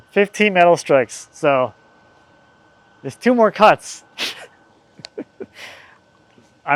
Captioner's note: laughs